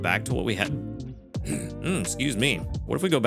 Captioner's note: clears throat